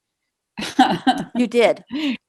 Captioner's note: laughs